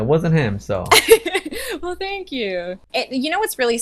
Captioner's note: laughs